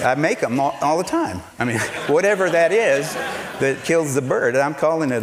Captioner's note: laughter